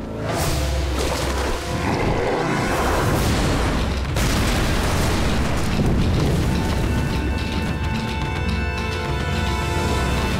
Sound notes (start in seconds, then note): 1.3 grunting